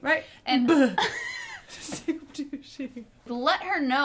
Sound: laughing

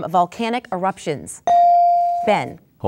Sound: dinging

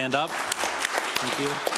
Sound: applause

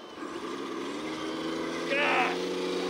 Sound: engine roars

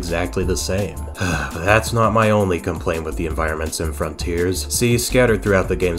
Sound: sigh

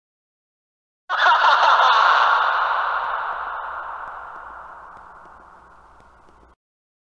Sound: laughing

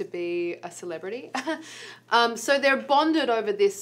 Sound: laughs

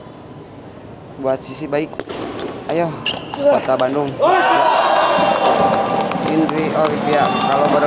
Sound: applause

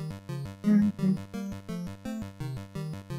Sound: hums

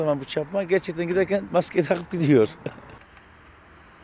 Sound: laughs

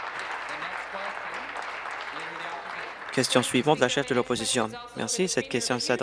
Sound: applause

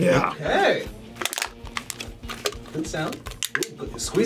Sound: can crackles

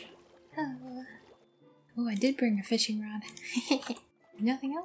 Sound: giggle

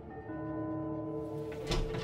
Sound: doorbell ringing

